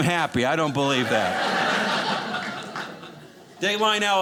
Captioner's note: audience laughing